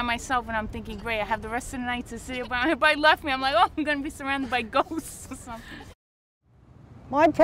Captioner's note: laughs